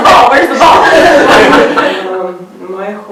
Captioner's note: participants laughing